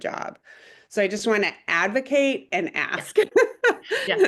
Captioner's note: chuckles